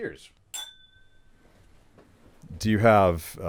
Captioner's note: glass clinking